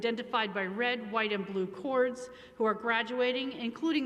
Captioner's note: none